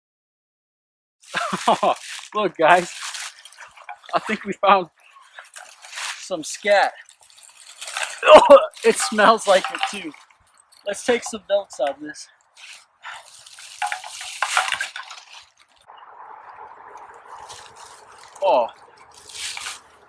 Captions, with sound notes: Oh look guys, I think we found some scat! Oh [coughs], it smells like it too! Let's take some notes on this. [items clanging around] Oh...